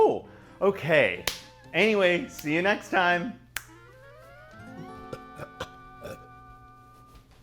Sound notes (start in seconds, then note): 3.5 instrumental music; 4.8 burping